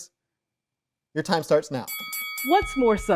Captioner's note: bell ringing